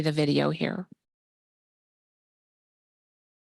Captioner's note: no audio